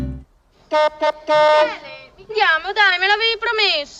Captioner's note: car honks